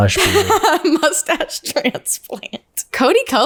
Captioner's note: laughs